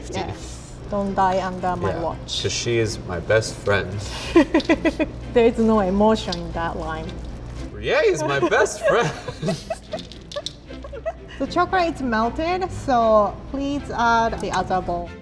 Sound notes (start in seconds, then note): 4.2 laughs; 8.3 laughs